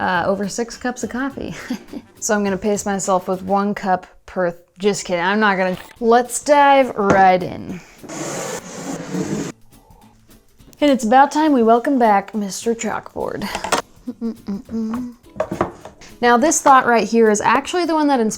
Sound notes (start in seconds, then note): 14.2 hums